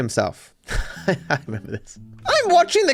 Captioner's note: laughing